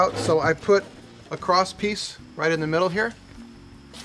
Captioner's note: none